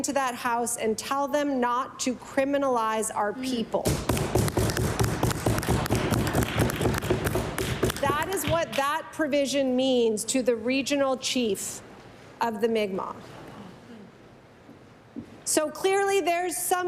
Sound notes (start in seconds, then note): 7.6 applause